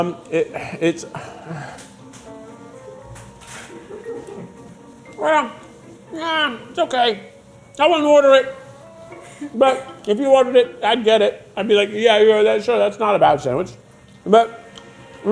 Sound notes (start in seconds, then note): 0.6 sighing